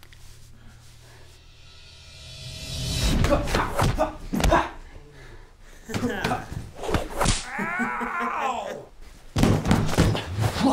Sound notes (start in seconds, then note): 3.5 grunting; 6.8 smacks; 7.5 Ben laughing